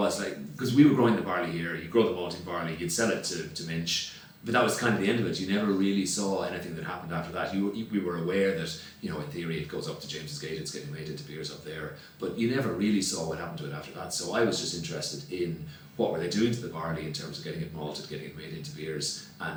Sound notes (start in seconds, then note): none